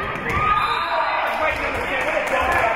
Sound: spectators shouting encouragements; spectators cheering; whistle being blown; spectators cheering and applauding

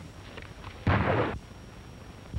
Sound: gunshots

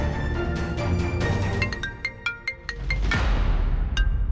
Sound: phone rings

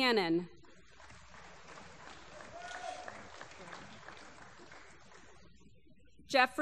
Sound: applause

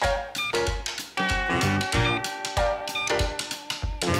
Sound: scanner beeping

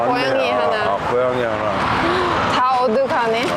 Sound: laughing

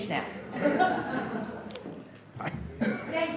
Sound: laughs

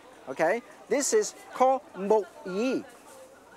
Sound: chef speaks in foreign language

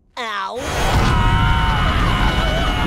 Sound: screaming

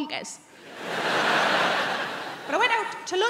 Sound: crowd laughing

